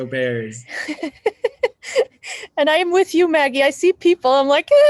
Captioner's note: laughs